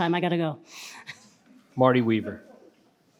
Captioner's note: participant laughs